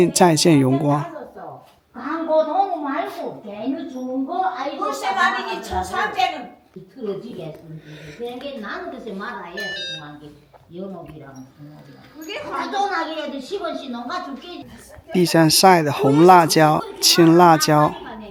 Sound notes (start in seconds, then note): 2.7 Korean